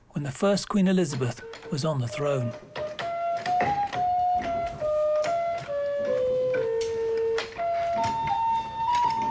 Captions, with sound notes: when the first Queen Elizabeth was on the throne. (soft melodic music) (keys clacking)